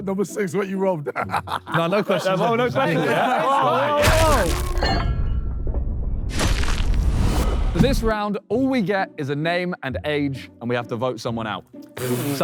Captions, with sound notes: Number six, what you robbed? [laughs] - No, no questions. - No, no questions at this point. Whoa, whoa, whoa! [metal clanging] - This round, all we get is a name and age and we have to vote someone out.